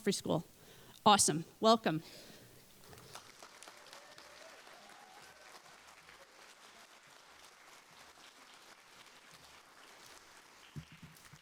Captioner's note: applause